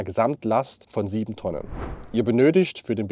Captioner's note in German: Swoosh